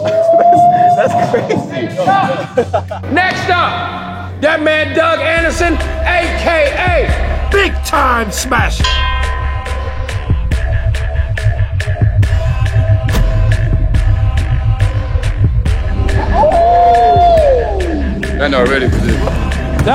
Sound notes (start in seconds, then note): 8.8 ding; 11.0 tense music